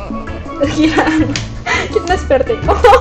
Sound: laughs

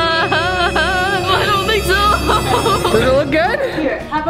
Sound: laughs

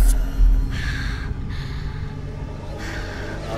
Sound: breathes heavily

